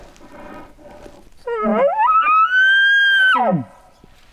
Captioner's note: shooter bugling